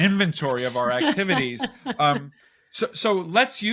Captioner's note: chuckling